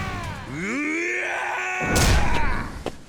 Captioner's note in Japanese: 叫び声; うめき声